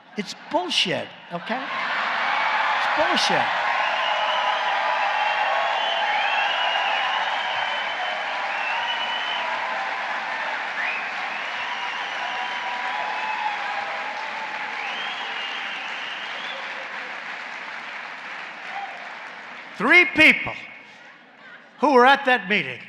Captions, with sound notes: It’s bullshit. Okay? It’s bullshit. (Laughter and applause.) “Three people who were at that meeting” —